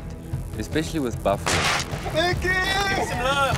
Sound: gunshot rings

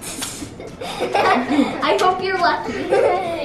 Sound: giggling

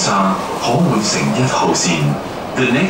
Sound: Cantonese

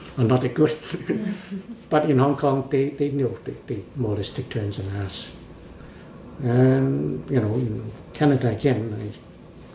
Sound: laughs

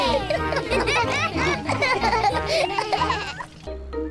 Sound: all laugh

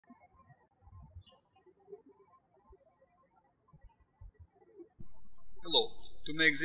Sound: birds chirping

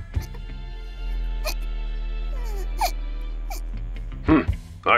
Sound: sad whimpering

